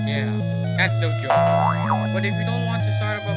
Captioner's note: funny ahh boing sfx